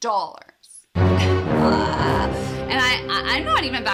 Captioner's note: screams; scary music